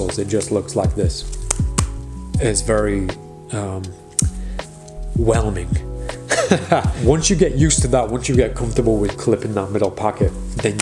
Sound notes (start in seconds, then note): 1.3 cards landing; 6.2 laughing